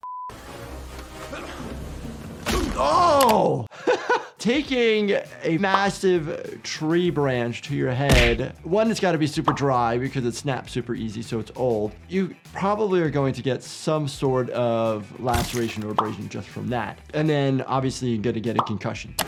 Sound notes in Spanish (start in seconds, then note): 0.2 Indiana gruñe; 0.3 música dramática; 2.6 el hombre gruñe; 3.7 risas